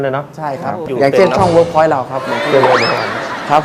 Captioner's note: laughing